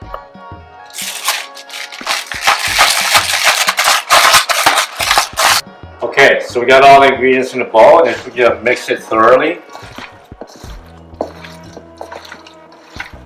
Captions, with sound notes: [peppercorn rattles in grinder] [pepper grinds] Okay. So we got all the ingredients in the bowl, and then we're gonna mix it thoroughly.